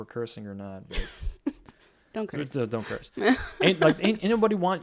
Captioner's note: chuckles